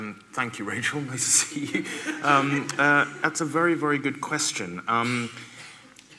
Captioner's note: laughter